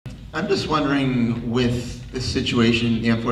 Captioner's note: voiceover